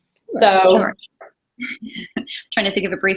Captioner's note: laughs